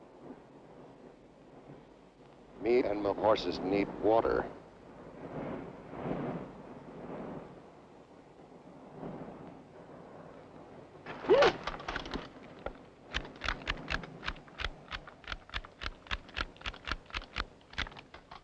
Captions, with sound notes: Me and my horses need water. (gun clacking)